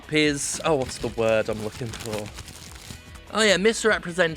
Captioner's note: papers rustling